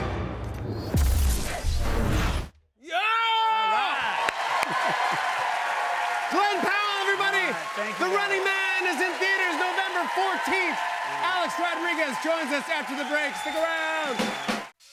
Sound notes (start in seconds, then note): 4.4 cheers and applause